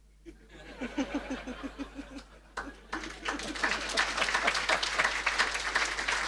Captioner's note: audience laughing and applauding